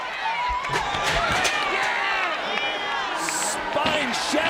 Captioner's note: chair clatters